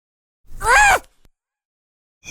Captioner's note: kyon screeches like the howler monkey he is, the bastardflake